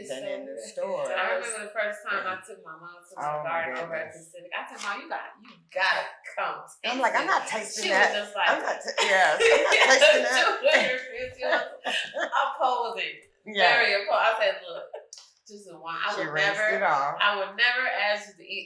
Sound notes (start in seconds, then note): 7.0 laughing; 10.6 laughing and speaking indistinctly; 14.3 chuckles